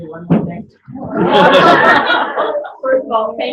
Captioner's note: laughter